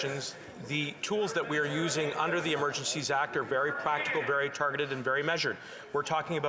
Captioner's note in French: voix de l'interprète